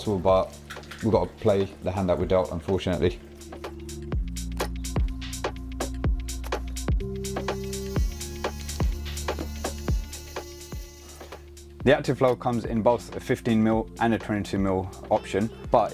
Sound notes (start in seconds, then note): 4.1 drill buzzing; 4.1 gentle music